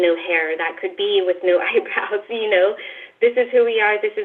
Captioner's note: laughs